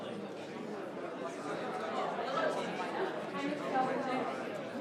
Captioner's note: group quietly conversing